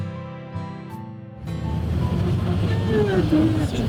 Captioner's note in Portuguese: som de motor de ônibus